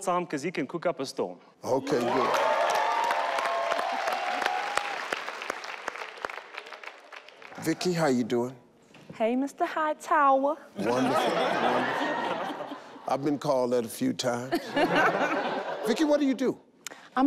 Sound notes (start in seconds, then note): 1.7 audience cheer; 10.9 all laugh; 14.5 all laugh